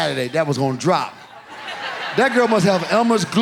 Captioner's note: audience laughs